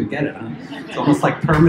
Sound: laughter

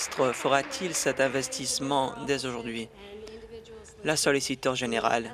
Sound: applause

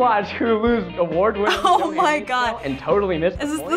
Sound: chuckles

